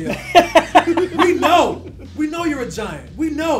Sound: laugh

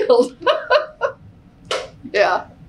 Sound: laughs

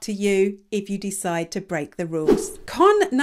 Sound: image whooshes

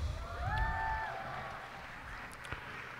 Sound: cheers and applause

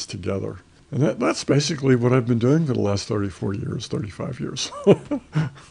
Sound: laughs

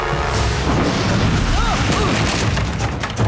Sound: grunting

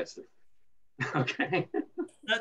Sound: laughter

